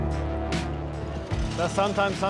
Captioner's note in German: englisch